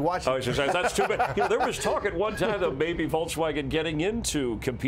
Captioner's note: laughter